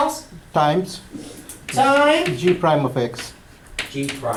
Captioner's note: voiceover